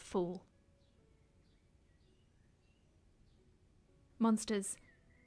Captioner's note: soft piano music continues; birds continue chirping